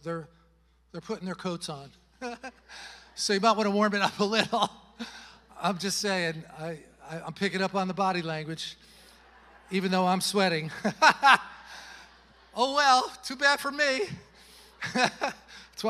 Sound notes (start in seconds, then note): 2.2 chuckles; 11.8 chuckles; 14.7 chuckles